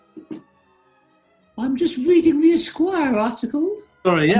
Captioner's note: high pitched